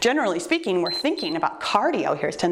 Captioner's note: timer beeps